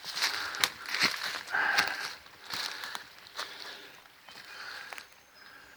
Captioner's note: leaves crunching and twigs snapping